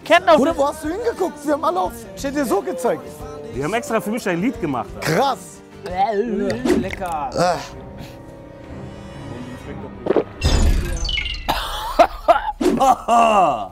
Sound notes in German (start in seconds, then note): 8.6 Geheimnisvolle Musik; 10.0 Schlucken; 10.4 Flirrende Klänge